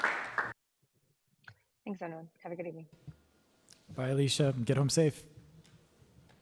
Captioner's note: applause